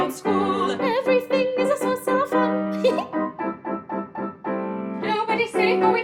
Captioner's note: giggle